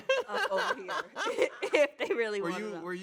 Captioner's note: laughs